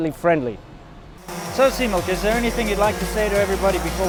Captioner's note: drone buzzing, music